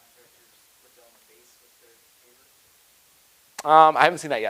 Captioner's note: person speaking quietly